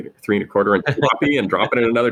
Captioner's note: laughs